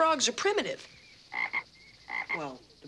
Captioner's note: Gus croaks